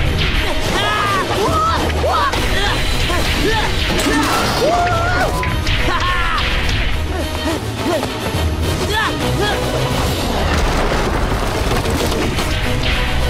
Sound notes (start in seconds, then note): 0.7 screaming; 3.0 grunting; 7.9 grunting; 10.4 thudding